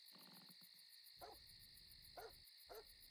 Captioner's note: dog barking